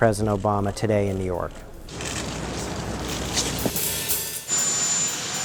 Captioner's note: airplane noise